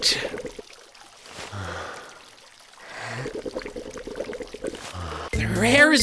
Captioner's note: water tank sounds